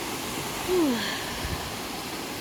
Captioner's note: exhales